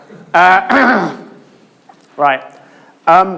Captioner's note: clears throat